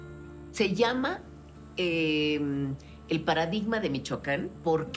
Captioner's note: in Spanish